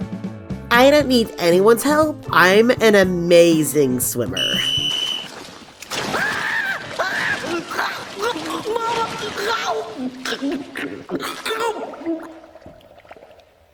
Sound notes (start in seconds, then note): 4.3 whistle; 6.1 panicked Shouting